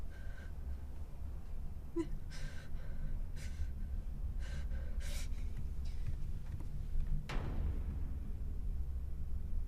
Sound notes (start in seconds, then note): 2.4 Maria breathing heavily